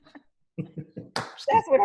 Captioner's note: laughs